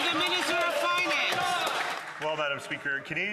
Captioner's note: some Applause